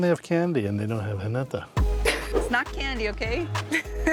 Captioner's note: laughs